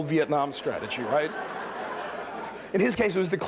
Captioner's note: laughter